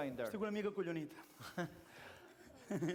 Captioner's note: non-english speech; laughter